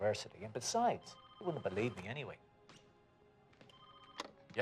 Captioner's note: phone rings